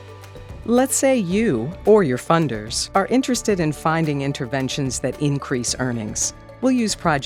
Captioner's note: voiceover